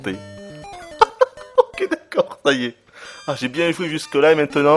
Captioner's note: laughs